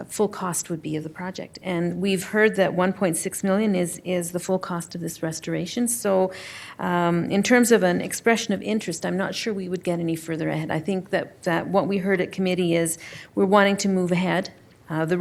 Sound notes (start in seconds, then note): none